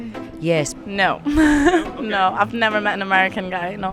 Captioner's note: laughingly